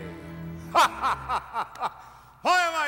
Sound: laughing

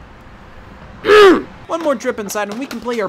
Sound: grunts

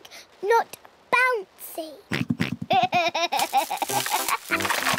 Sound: oinks and giggles

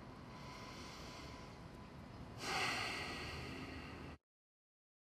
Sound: a deep breath, exhale

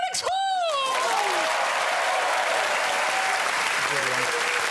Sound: applause

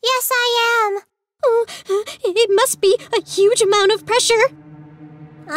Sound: moaning; dramatic music

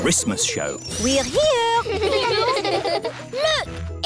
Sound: children giggling

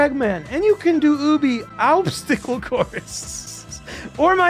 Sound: laughs

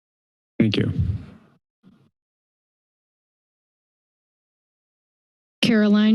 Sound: silence

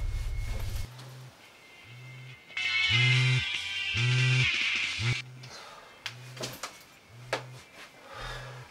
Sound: phone rings

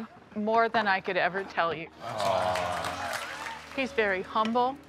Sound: audience applauds

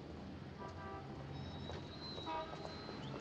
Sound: vehicles Passing, Horns Honking

